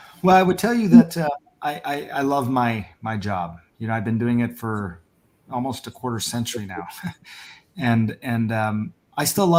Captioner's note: laughs